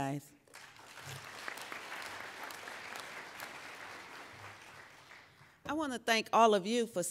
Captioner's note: applauding